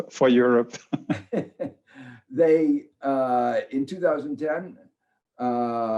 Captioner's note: both laugh